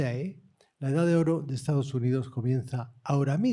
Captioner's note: speaking spanish